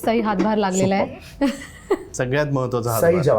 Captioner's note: laughs